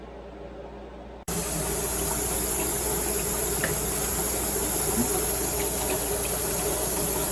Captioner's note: water runs